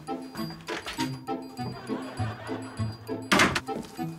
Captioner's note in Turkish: Gülme efekti